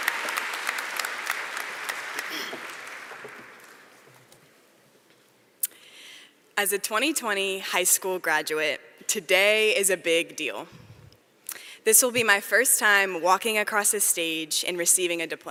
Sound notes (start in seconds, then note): 1.9 applause